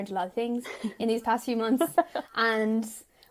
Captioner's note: laughing